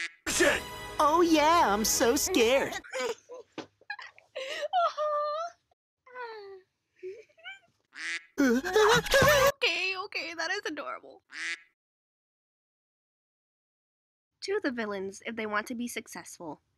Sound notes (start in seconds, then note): 3.3 thud; 4.4 breath; 7.9 quack; 8.2 scared noise; 11.3 quack